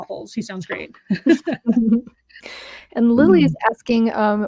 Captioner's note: laughs